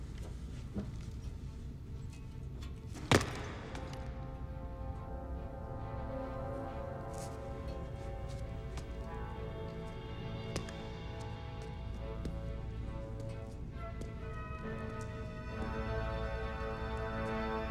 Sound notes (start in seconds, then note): 2.6 feet thudding; 4.2 suspenseful music